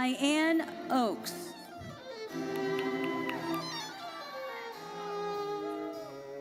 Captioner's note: audience cheers